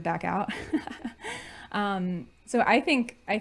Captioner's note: laughing